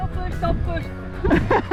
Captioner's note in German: gelächter